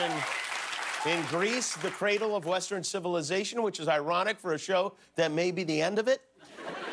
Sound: cheers and applause

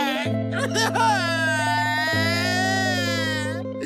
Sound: crying

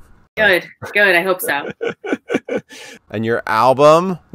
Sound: laughing

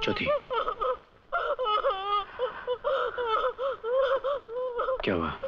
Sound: sobbing

